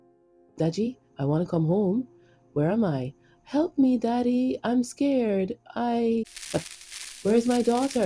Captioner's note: Static